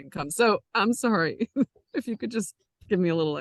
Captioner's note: chuckles